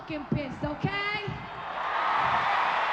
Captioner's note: cheering